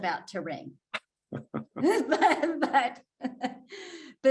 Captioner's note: all laughing